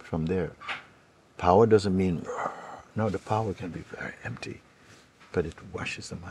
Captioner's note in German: brüllen